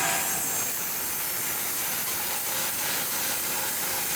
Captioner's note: saw humming